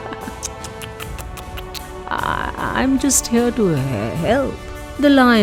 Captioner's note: laughs